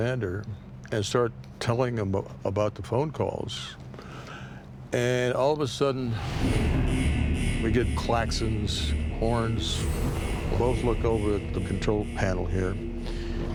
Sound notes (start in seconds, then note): 8.2 klaxons blaring